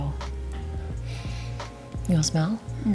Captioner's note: sniffing